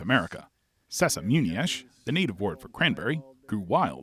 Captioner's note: speaks in foreign language